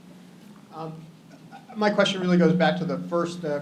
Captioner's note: chuckles